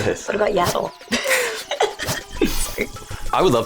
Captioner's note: laughs